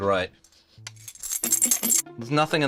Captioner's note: jingling